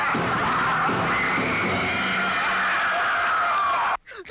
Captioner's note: woman screaming